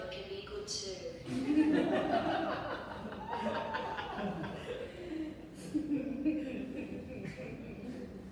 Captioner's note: audience laughs